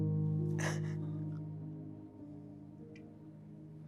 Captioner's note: Maria cries